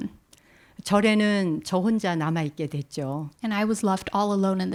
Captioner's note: speaking in Korean